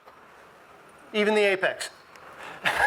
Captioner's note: laughs